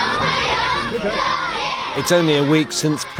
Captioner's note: upbeat music; cheering